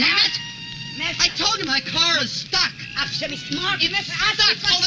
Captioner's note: shouting in foreign language